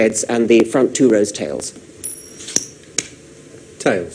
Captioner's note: coin spinning